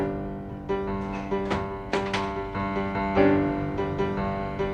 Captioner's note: door opening